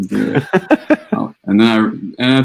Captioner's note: laughter